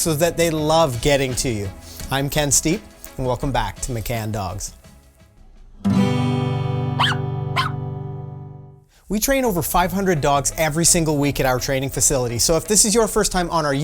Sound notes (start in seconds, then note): 7.0 dog barking; 7.5 gentle music